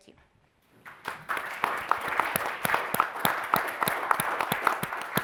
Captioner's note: audience applauding